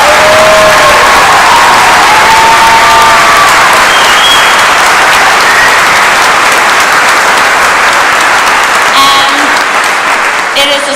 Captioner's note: cheers and applause